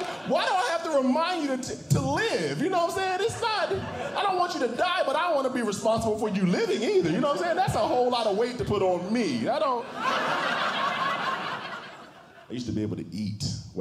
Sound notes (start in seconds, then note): 10.2 audience Laughing